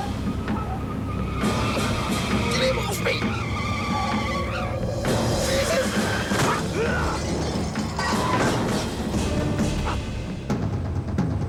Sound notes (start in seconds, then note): 0.1 dramatic music; 4.3 tires squeal; 6.8 man grunts; 8.5 dramatic music